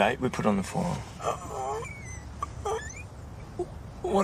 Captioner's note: squeaks